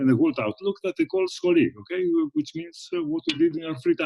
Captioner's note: speaks in foreign language